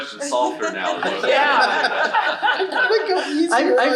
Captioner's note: audience laughing